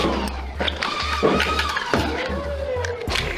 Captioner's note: motors revving and rapid fire dart thunks; clattering; motors revving and rapid fire dart thunks